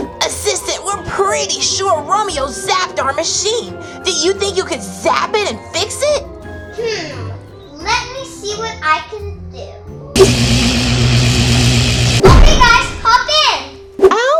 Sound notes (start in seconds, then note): 10.2 electric zapping